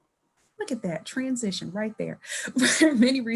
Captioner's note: laughing